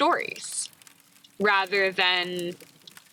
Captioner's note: fire crackling